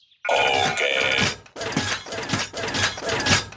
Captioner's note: rattling